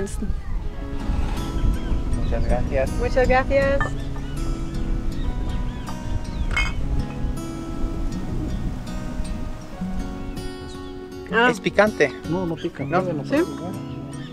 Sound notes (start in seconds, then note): 3.5 in Spanish